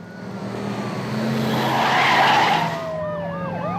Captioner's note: engine roaring; tires screeching; sirens wailing